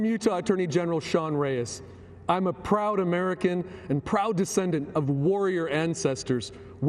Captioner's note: speaking foreign language